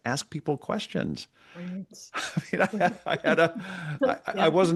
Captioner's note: laughter